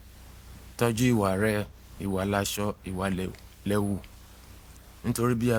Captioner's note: speaking in foreign language